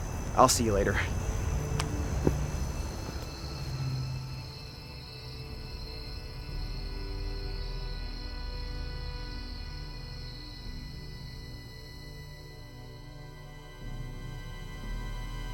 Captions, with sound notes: I'll see you later. (insects chirping) (dramatic music)